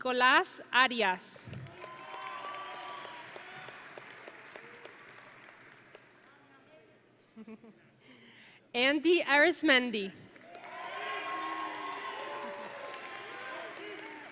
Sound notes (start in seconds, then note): 1.7 audience and graduates cheering; 7.3 presenter chuckles; 10.5 audience and graduates cheering